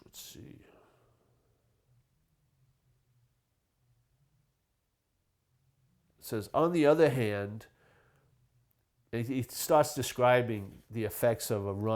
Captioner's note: pause